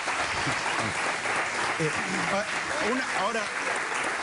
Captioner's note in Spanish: Aplausos